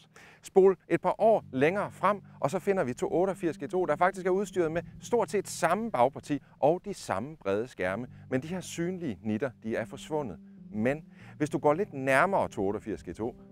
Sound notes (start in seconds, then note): none